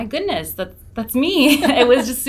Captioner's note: laughs